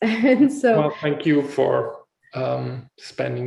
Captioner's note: laughs